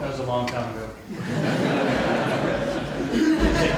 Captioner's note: audience laughing